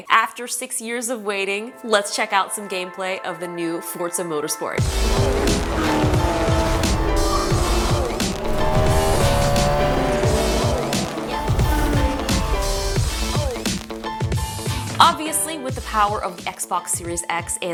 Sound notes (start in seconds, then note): 4.8 engines roaring; 5.2 upbeat music